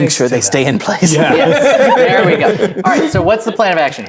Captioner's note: laughing